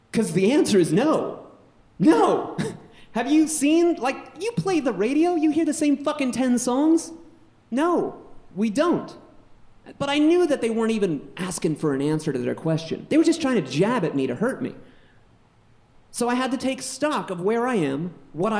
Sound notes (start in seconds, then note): 2.0 laughs weakly